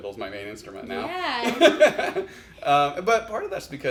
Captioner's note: laughs